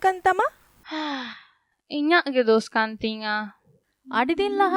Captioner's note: sigh